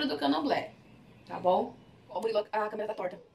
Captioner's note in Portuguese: voz acelerada